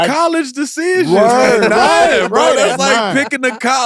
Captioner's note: all mutter in agreement